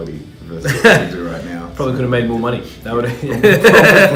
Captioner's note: laugh